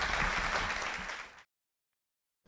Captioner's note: applause